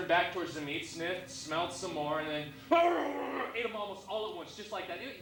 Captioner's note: growls